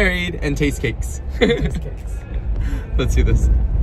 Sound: laughing

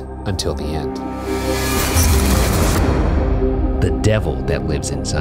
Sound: electrical buzzing

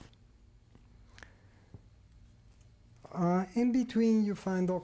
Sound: pauses for 3 seconds

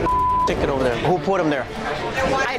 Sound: beep

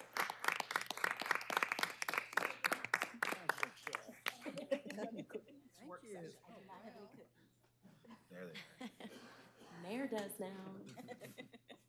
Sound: applause

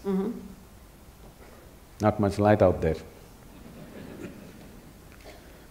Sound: laughter

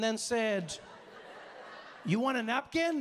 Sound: audience laughing

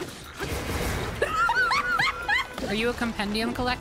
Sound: laughter

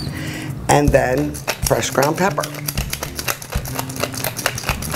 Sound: rattling

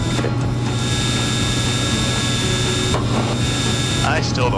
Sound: plane engine buzzing

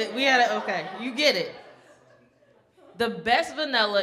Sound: audience laughing

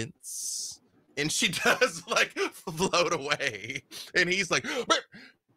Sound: laughs

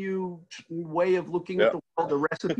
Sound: laughing

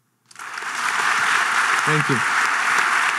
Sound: audience clapping

